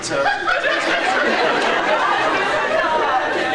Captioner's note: laughs